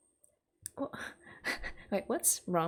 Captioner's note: laughs